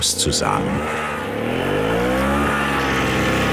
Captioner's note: powerful engine roar